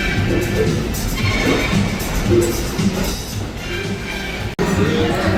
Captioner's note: heart pounding